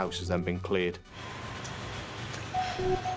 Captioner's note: boat droning; pensive music